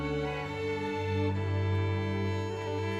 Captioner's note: none